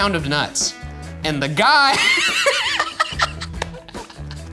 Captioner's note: laughing